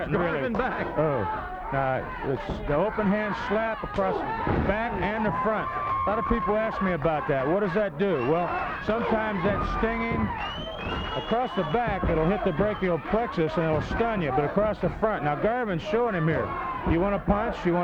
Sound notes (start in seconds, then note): 10.2 body thudding